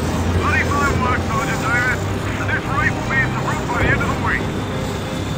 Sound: radio

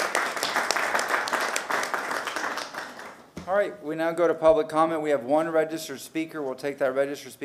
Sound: applause

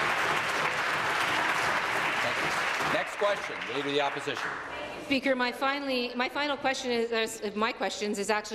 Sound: some Applause

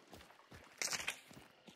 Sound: breaks twig

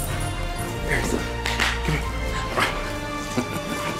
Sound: claps

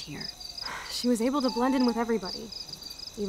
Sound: Chloe sighs

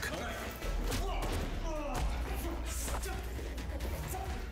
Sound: punching

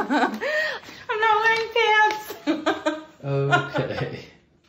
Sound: laughs; laughs

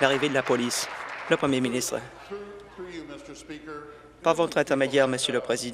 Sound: applause

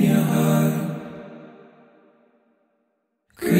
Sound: silence

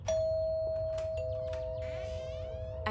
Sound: doorbell

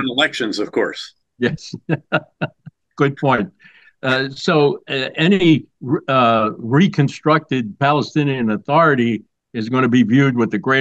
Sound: laughs

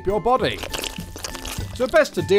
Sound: juicy organ slither

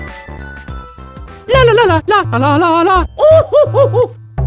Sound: humming

